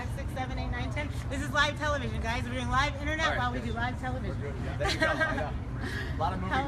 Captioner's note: laughter